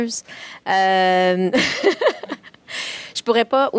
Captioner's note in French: Rires